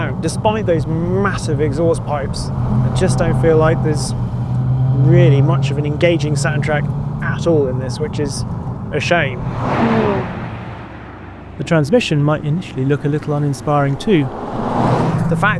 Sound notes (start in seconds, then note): 10.1 vehicle revs; 14.5 vehicle revs